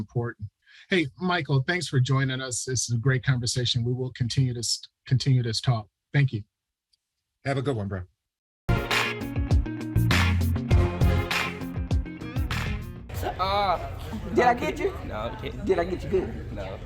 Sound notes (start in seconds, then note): 14.0 teen groans